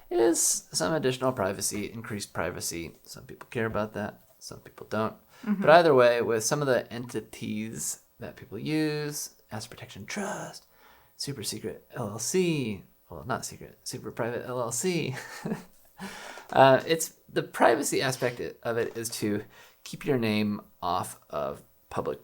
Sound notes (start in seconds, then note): 15.6 laughs